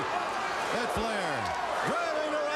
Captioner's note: crowd cheering